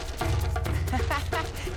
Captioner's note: laughing